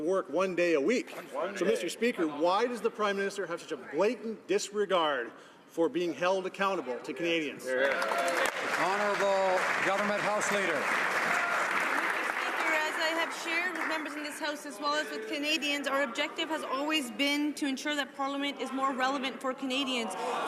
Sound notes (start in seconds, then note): 12.5 some Applause